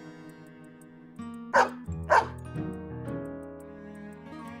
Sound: bark bark

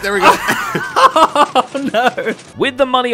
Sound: laughs

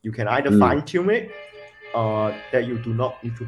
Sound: cars honking

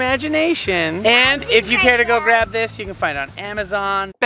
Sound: kids talking

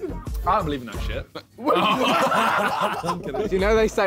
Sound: all laughing

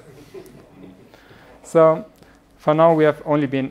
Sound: laughing

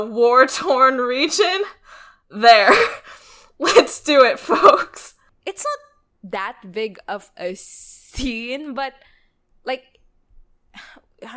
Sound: laughs

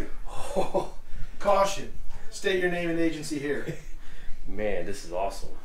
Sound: laughs

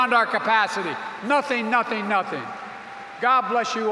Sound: applause

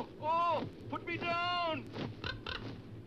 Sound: wings beating; crow crackles

